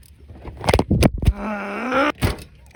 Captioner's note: angry noises